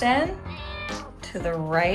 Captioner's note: cat meows